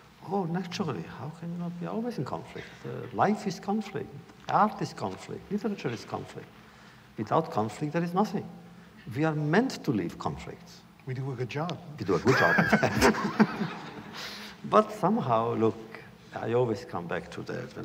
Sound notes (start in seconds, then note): 12.2 laughter; 12.2 laughs